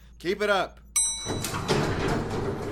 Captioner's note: elevator chime; elevator door closing, starting up